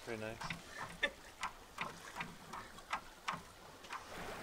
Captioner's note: laughs